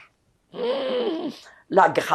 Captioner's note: sighing